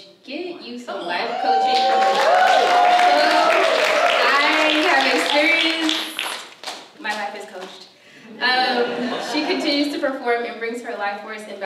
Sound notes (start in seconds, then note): 1.5 applause; 8.3 audience laughs